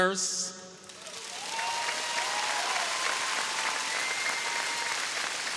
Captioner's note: audience cheering